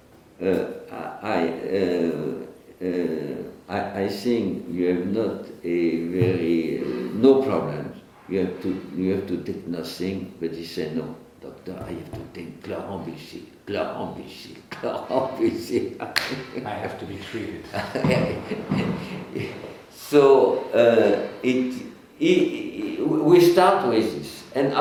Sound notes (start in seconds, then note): 14.6 laughs